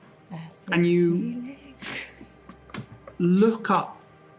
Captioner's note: whispers